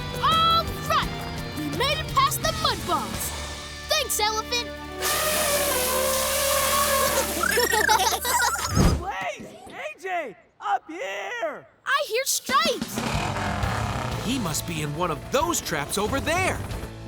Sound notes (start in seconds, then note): 5.0 snorting; 7.0 laughing